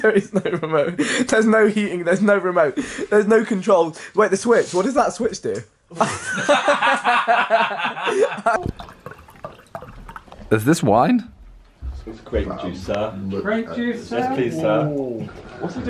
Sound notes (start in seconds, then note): 6.1 laughing; 8.5 grape juice spilling